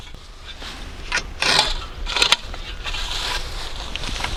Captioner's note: sand scraping